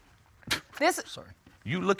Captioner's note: scoffs